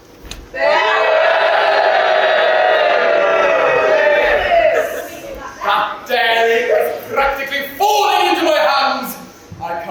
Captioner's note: audience boos